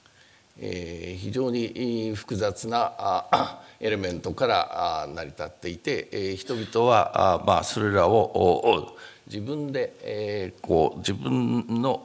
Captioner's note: speaking japanese